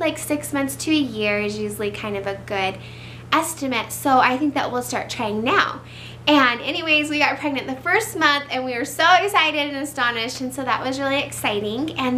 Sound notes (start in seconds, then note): none